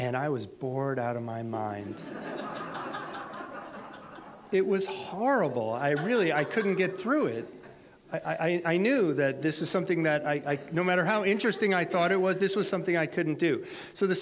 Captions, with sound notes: And I was bored out of my mind. (audience laughter) It was horrible. I couldn't get through it. I knew that this is something, no matter how interesting I thought it was, this was something I couldn't do.